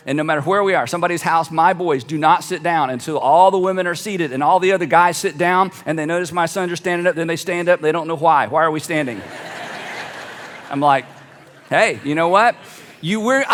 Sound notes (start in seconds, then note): 9.0 audience laughs